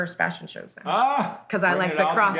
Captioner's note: laughs